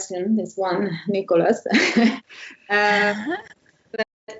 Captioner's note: laughter